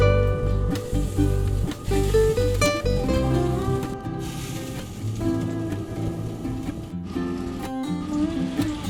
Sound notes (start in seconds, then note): 0.4 hissing and sizzling on the oven tray